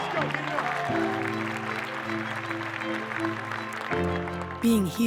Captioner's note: audience applause